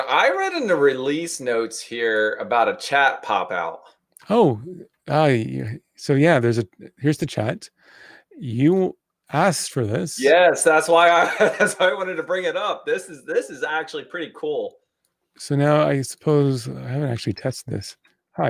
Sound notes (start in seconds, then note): 11.0 laughing